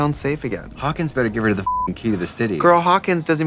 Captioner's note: beeping